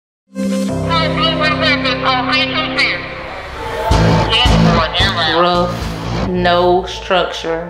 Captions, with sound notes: (loudspeaker) (rock music) - Rough, no structure.